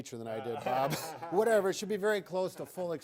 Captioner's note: laughs